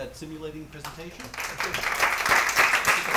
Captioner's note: applause